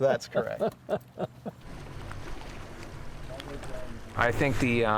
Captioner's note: laughs